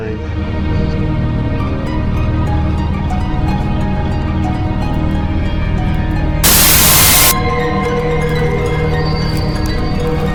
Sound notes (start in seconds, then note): 0.3 suspenseful music; 6.4 static crackling